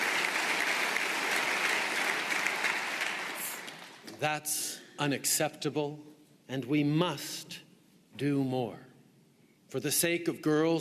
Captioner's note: applause